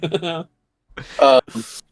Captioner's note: laughs